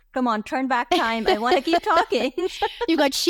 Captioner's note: laughs